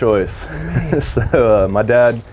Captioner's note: both chuckling